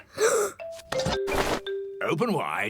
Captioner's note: gasps